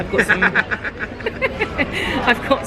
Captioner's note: laughs